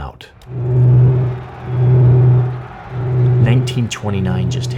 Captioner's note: crowd yelling; tense uneasy music